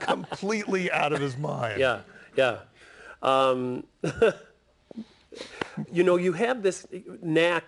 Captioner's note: laughter